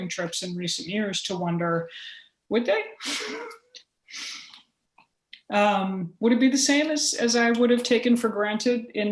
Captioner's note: laughter